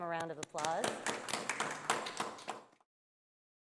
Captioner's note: applause